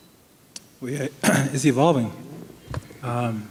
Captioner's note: clears throat